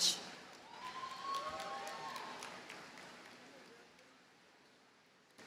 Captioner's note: audience cheers and applauds